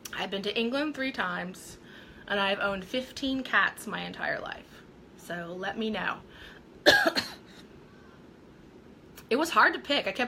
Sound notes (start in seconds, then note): 6.8 coughing